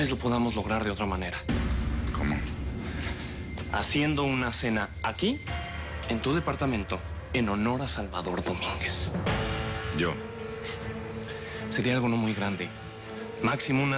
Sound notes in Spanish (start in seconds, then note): none